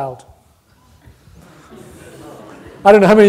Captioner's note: audience scattered laughter